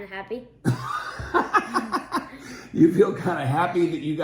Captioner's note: laughing